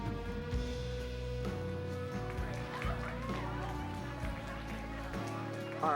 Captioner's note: crowd Chattering, Applauding